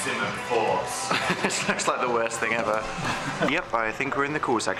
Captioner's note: laughs